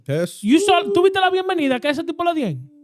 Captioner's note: speaking In Foreign Language